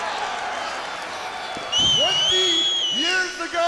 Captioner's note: crowd cheering